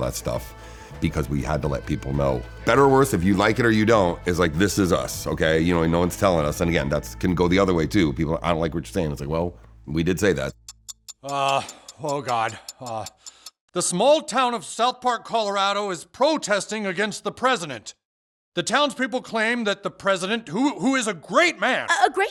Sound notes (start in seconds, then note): 10.4 clock ticking